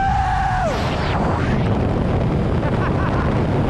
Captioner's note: wind turbulence